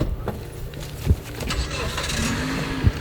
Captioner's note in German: Auto wird gestartet